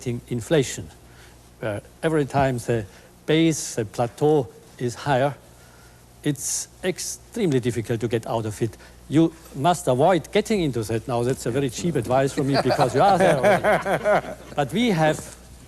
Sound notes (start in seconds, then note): 14.6 laughing